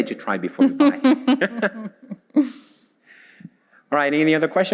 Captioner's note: both laugh